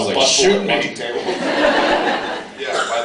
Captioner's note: laughs